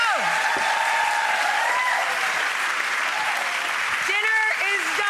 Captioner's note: audience applauds